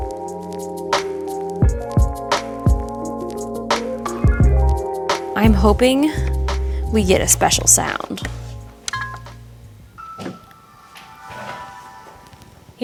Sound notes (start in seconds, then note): 0.1 upbeat music; 9.1 Xbox loading